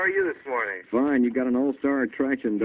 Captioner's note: on phone